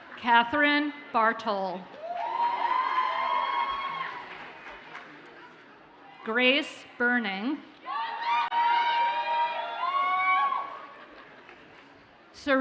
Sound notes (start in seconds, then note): 2.0 audience cheers and applauds; 8.2 audience cheers and applauds